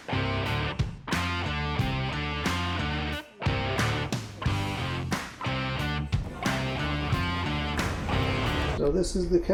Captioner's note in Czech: Potlesk